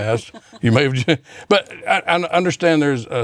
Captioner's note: laughs